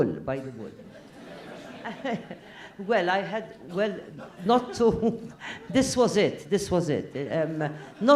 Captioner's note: laugh; laugh